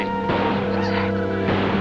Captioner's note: gunfire